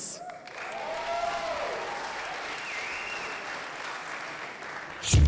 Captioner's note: audience applauding